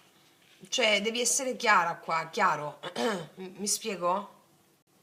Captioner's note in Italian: schiarire la voce